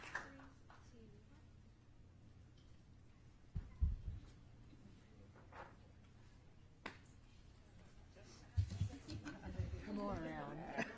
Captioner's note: applause